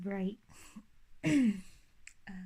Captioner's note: nervous cough